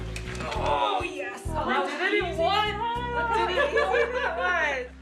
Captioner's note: murmurs